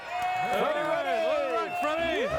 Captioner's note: audience cheering and clapping